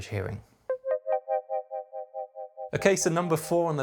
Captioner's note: electronic tones